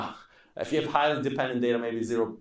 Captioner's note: laughing